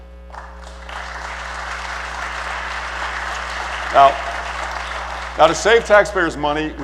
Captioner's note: applause